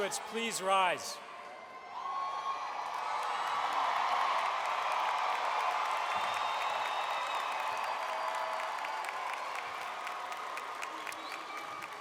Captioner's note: crowd Cheering